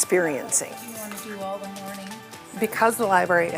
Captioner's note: staff speaking faintly